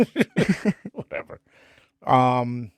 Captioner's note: laughing